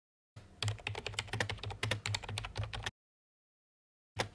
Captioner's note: typing; typing